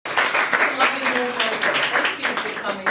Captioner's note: clapping